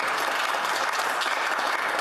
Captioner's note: applause